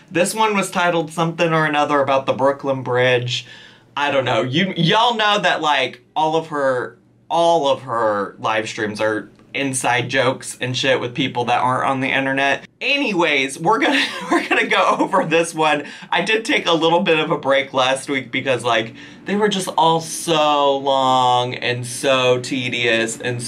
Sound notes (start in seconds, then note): 13.4 laughs